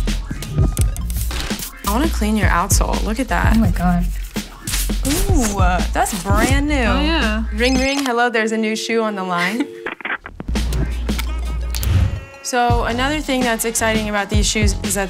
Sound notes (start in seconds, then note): 3.7 sponge scrubbing; 10.8 upbeat music